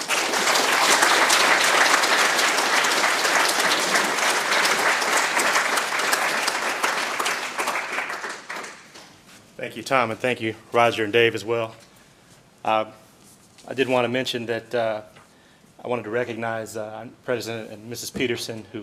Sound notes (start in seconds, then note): 0.0 applause